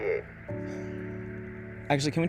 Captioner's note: somber music; Jack sighs